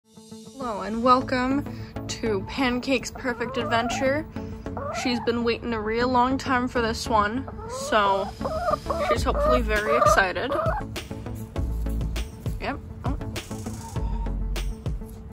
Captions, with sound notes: Hello, and welcome to Pancake's Perfect Adventure. She's been waiting a real long time for this one, So she's hopefully very excited. [Excited chicken noises] (quieter voice) Yep, oh.